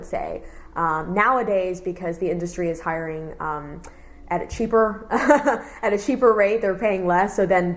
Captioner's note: laughs